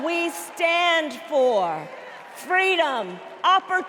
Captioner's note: cheers and applause